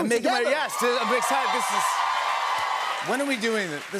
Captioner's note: cheers and applause